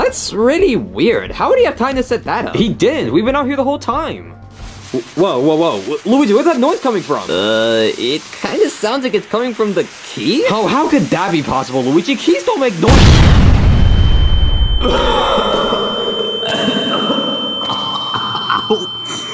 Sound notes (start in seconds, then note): 13.0 door bangs loudly